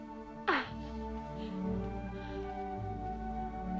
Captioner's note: Hundra laughs